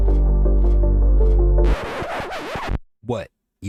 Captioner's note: record Scratching